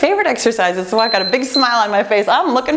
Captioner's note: timer beeping